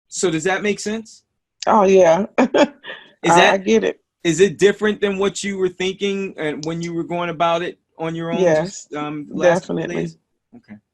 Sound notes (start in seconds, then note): 2.4 laughs